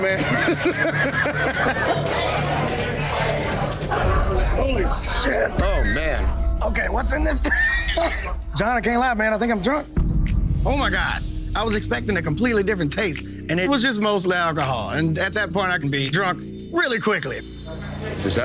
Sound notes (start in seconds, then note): 0.0 laughs; 7.5 coughs